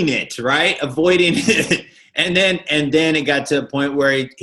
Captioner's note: chuckling